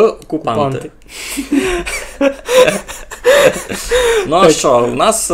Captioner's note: both are laughing